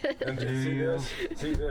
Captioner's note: laughter